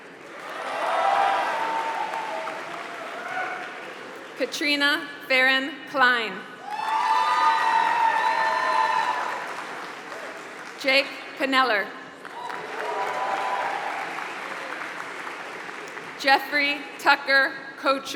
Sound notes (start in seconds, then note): 0.0 applause; 7.3 applause